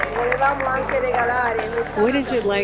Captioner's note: staff speaking in foreign language